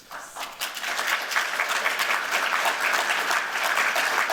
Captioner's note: applause